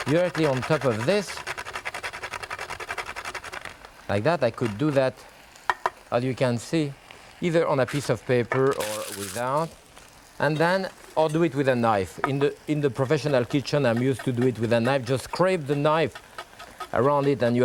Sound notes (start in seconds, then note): 1.9 grater rasping